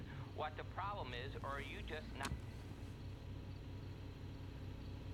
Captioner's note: turns off radio